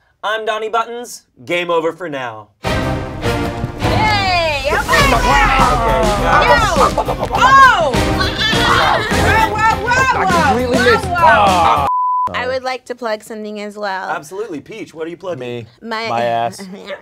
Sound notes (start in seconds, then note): 2.7 energetic music; 4.8 panel shouting